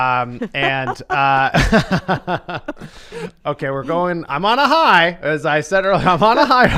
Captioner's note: laughs